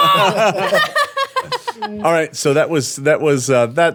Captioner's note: laughing